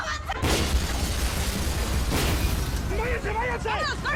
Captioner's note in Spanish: Estruendo